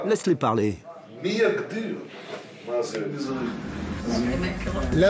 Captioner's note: Hebrew spoken audio